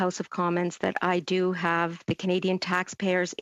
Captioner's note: speaking French